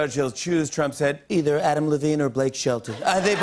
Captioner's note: As Trump; laughter